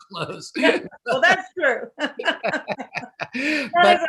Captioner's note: laughs